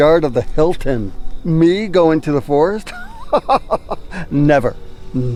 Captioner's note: laughing